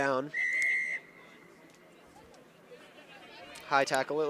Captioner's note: whistle blows